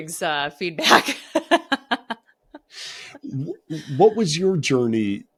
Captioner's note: laughing